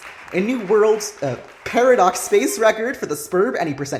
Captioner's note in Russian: Аплодируют зрители